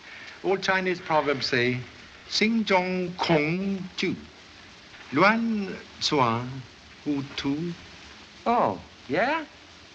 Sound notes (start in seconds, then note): 2.1 speaking Chinese